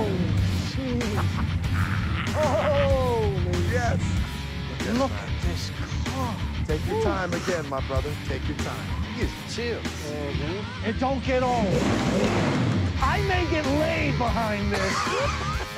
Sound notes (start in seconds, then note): 0.7 laughing; 11.4 engine gunning; 14.6 laughing